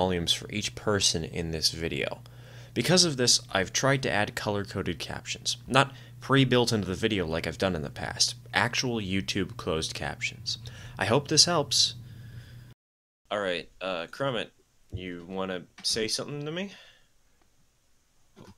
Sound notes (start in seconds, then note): 4.8 emphasis on "tried"